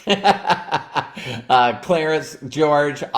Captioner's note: laughs